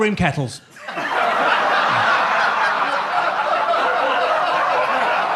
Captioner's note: audience laughs